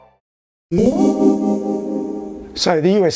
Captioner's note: ethereal zing - USB charging